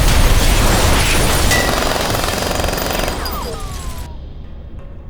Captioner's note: explosion thunders; gun firing; soft tense music